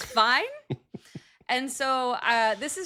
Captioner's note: chuckling